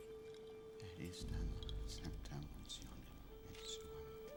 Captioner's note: speaking in latin